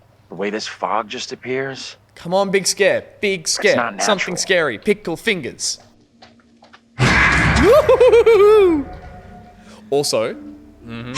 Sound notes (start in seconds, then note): 7.5 excited noises